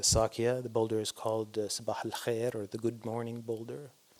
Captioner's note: non-english